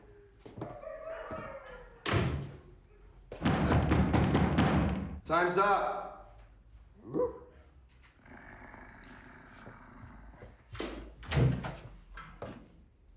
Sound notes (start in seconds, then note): 0.0 muffled howls and barks; 3.4 heavy knocks; 6.7 Bjorn barks; 8.2 Bjorn growls